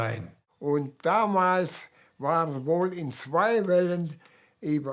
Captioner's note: speaking German